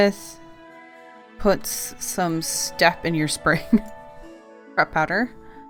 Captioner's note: laughs